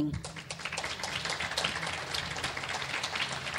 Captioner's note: clapping